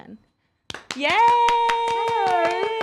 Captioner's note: applauding